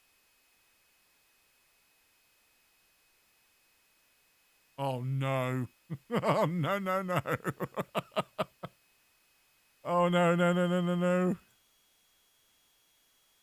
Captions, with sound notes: Oh no! No, no, no! *laughs* Oh no-no-no-no-no!